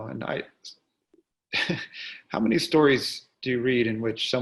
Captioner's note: chuckles